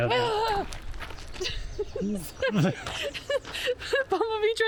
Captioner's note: laughing